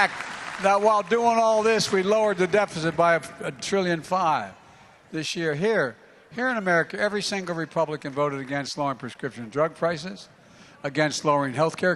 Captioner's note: applause